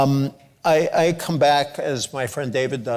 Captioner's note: none